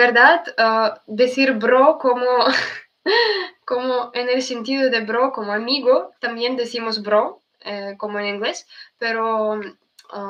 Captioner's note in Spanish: risas